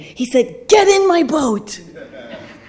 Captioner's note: audience laughing